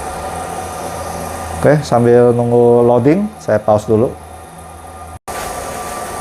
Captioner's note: printer machine noise